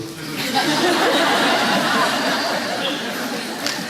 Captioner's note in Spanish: Risas